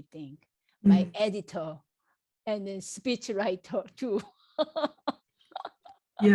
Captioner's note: laughs